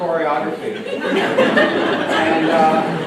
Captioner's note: laughter